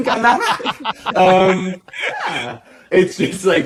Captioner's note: laughter continues